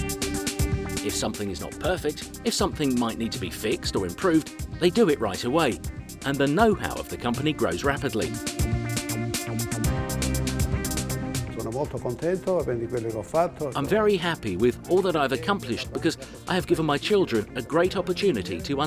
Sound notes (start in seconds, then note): 12.0 speaking foreign language